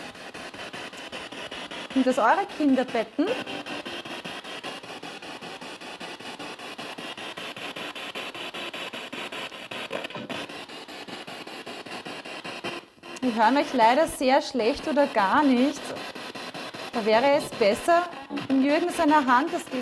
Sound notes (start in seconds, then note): 5.2 noise of the spiritbox in the background